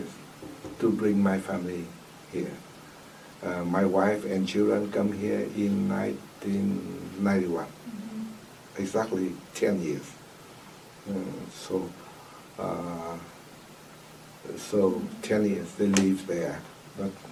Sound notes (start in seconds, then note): none